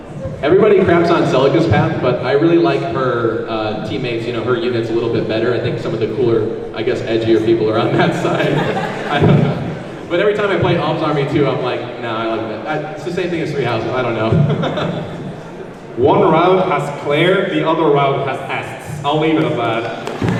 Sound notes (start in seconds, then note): 14.4 laughs